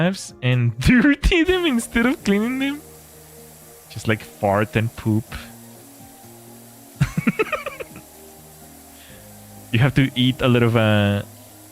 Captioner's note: laughter